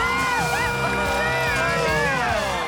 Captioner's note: cheering